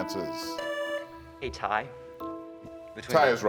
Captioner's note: buzzer sounding